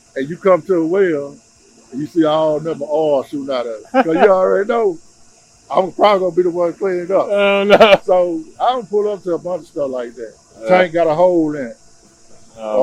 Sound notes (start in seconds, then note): 3.8 host laughing; 7.2 host laughs